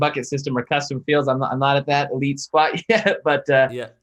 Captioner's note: chuckles